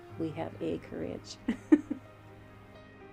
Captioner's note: laughs